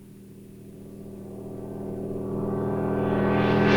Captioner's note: engine running